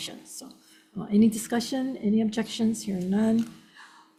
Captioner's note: none